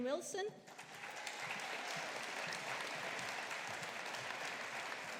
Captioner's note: audience applauding